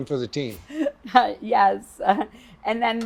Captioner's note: laughs